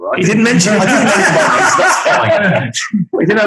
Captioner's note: group laughing